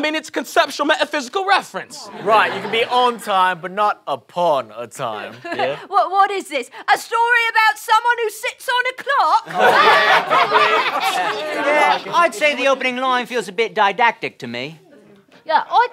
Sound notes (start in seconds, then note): 9.4 laughter